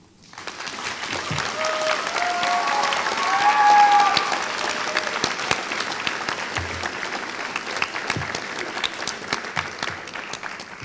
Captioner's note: applause